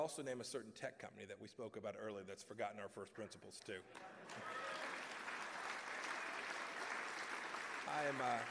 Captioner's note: applause